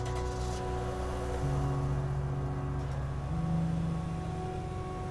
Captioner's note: car engine revving